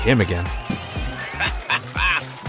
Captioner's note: laughs